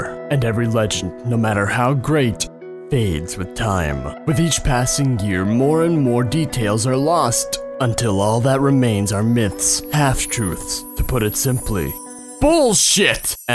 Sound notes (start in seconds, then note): none